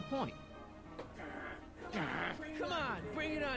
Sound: grunting

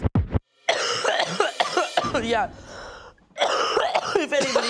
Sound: coughing

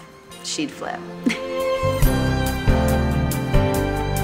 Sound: chuckles

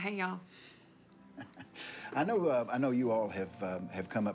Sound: chuckling

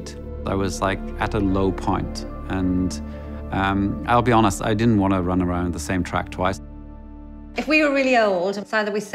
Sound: none

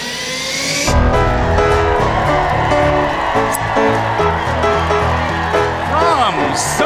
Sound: crowd cheering; upbeat music

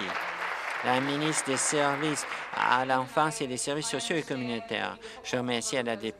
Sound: applause

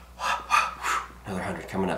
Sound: breathing deeply

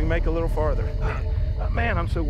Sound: panting

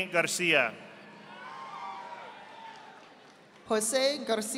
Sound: audience applauding

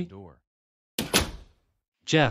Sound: door open

